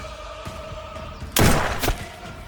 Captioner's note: gunfire pops